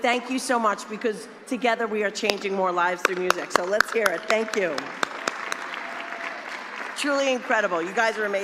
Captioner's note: applause